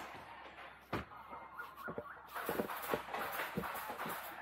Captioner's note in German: Vogelgezwitscher